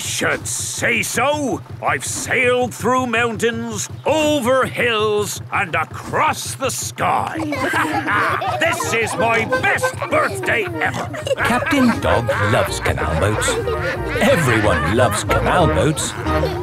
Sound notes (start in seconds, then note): 8.1 all laughing